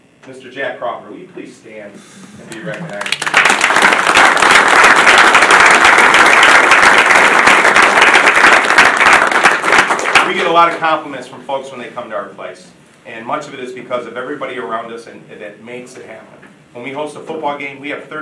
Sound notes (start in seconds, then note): 2.6 audience applauding